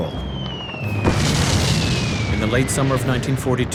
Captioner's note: bomb explodes